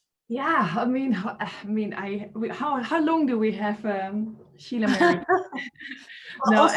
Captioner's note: laughing